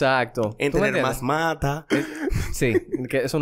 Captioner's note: laughs